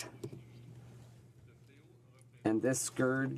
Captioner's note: speaking french